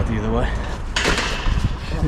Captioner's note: gate clangs